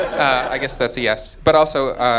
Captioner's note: audience laughing